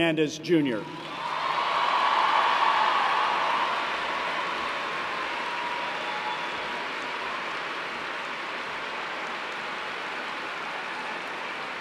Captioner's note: cheers and applause